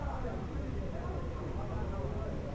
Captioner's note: none